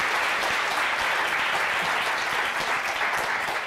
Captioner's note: applause